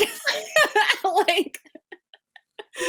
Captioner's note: laughs